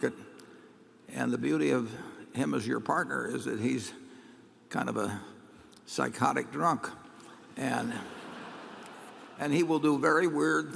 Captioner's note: laughter